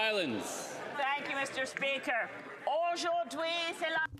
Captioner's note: speaking French